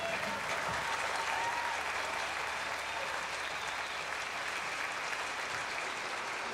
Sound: crowd cheering

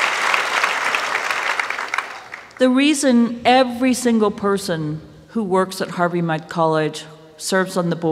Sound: applause

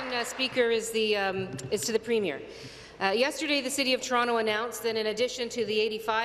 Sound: applause

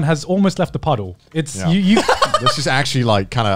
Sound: laughing

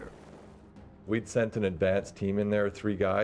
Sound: voiceover

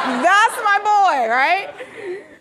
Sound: audience laughing

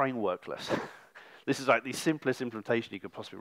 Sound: laughs

